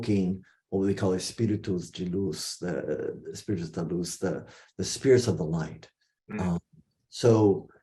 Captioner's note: non-english speech